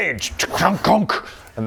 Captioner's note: ch-kng-chnk